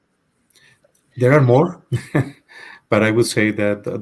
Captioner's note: chuckles